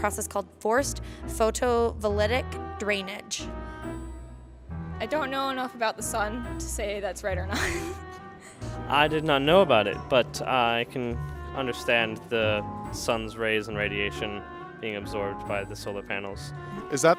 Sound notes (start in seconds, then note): 7.5 laughs